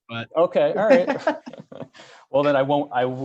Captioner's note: both laughing